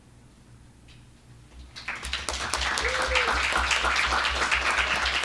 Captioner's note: applause